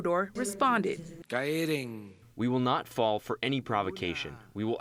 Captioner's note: through translator